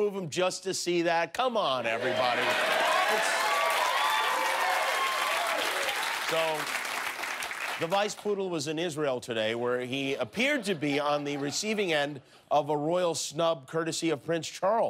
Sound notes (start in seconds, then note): 6.4 cheers and applause